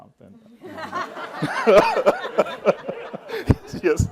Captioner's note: laughter